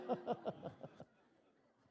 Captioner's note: laughter